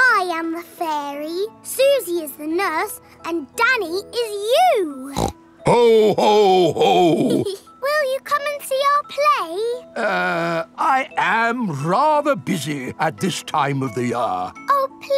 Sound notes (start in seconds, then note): 5.1 snorts; 5.7 giggles